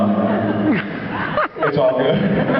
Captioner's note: laughs